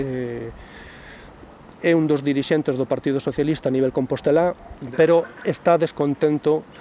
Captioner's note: Spanish